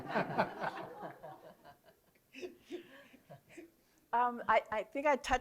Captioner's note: laughter